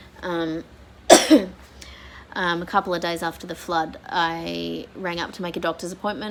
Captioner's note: coughs